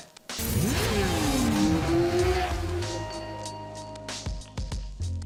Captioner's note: motorbike engine roars